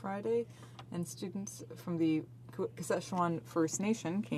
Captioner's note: speaking French